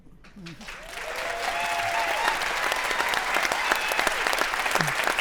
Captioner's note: audience cheering